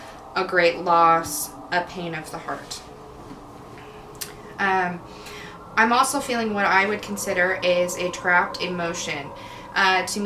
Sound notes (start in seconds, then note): none